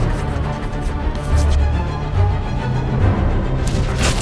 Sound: pencil scratching; dramatic music

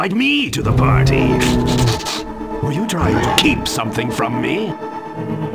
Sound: sniffing

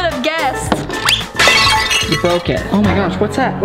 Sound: crashing

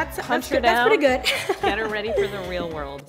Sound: laughing

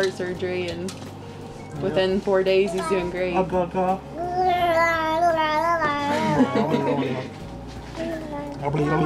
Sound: baby and Dad making noise; laughter

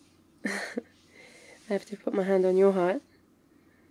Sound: laughs

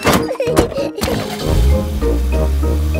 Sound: laughing; car engine starts

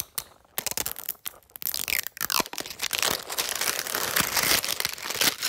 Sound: wrapper scrunching

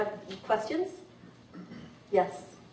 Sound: clears throat

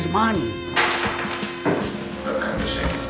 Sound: coins clinks

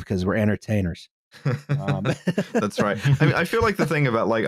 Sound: laughter

